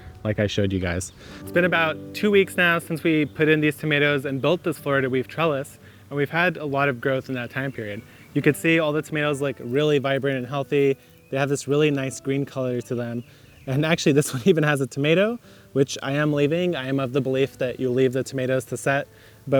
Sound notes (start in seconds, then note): 14.6 laughs